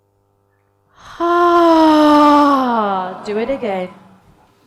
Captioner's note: all sigh loudly